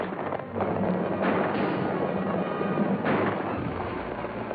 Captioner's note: gunshots and horse trotting